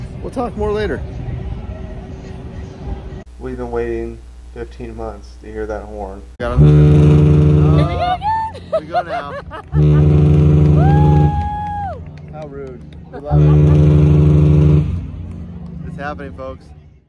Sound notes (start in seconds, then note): 9.6 horn blows; 13.0 laughter